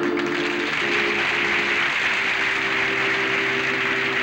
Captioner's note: applause